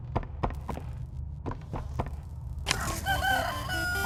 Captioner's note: footsteps